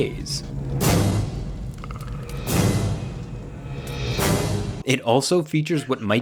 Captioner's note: tense music; Predator growling